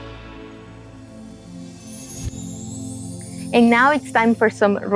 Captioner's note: page whooshing